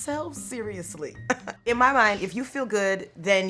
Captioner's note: chuckling